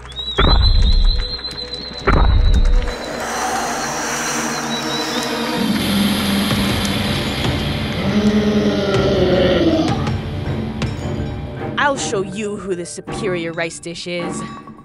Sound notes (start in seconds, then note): 0.0 Puto Monster rumbling; 0.3 suspenseful music; 2.8 smoke hissing; 7.9 Puto Monster growling